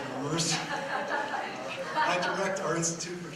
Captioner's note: laughter